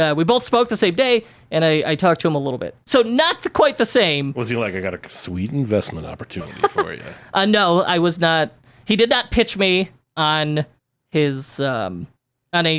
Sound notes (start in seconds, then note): 5.9 laughs